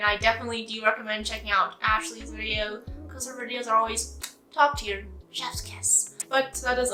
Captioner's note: mwah